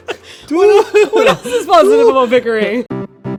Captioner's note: laughter